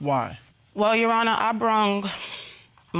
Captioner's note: exhales